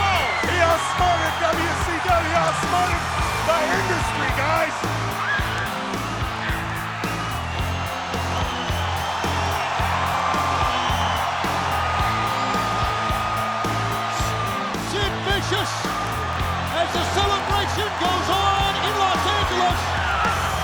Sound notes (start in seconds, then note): 5.7 audience cheering; 5.7 upbeat music